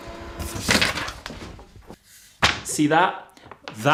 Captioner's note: copy machine whirring